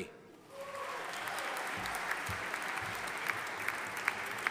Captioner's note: audience applauding